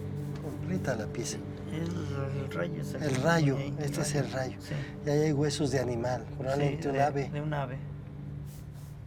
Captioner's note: speaking Spanish